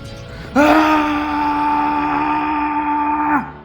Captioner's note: screams